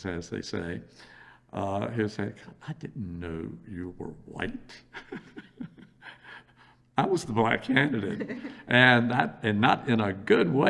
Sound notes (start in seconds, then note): 5.0 laughs